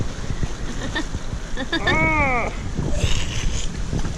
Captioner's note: laughing